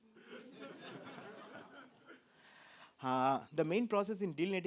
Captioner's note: laughter